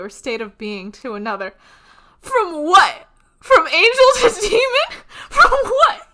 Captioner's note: laughing; both laughing